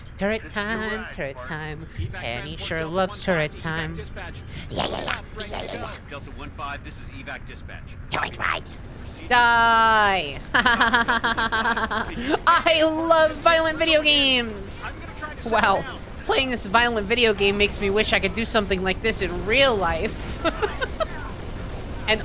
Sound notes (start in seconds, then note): 0.2 singing a little ditty; 4.5 gerblin voice; 19.3 laughing